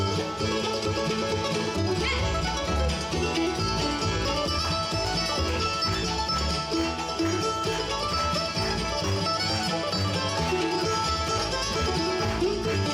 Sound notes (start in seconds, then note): 4.9 audience clapping